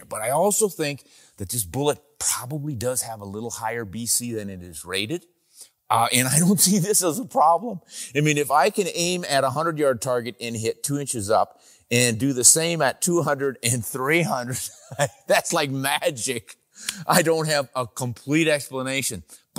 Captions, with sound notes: But I also think that this bullet probably does have a little higher BC than it is rated. And I don't see this as a problem. I mean, if I can aim at a a hundred yard target, and hit two inches up, and do the same at 200 and 300. (laughs) That's like magic. I don't have a complete explanation,